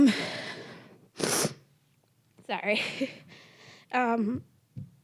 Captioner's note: sniffling